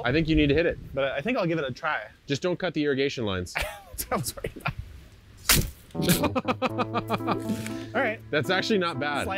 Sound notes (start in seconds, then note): 3.6 wheezes and laughs; 5.5 ax slashes; 6.0 laughs